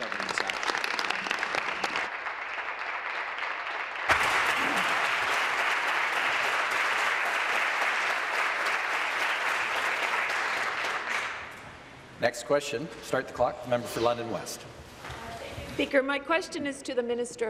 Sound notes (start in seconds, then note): 3.7 applause